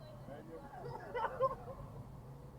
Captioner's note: guy driving by laughing